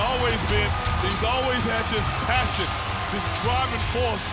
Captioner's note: electricity crackling